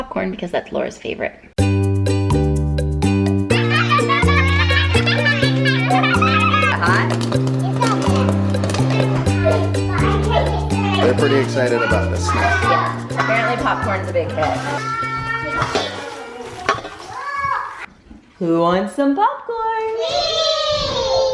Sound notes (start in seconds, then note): 3.9 children laughing